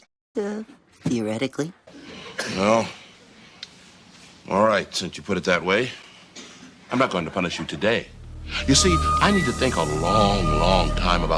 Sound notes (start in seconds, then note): 2.1 audience member coughing